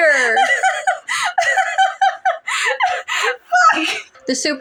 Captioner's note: cackle; cackle